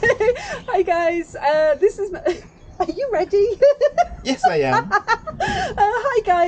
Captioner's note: laughing; laughing